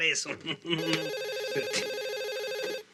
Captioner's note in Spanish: Suena el teléfono